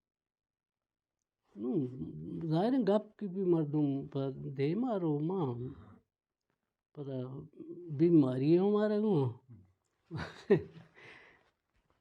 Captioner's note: chuckles